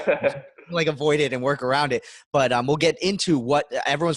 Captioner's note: laughs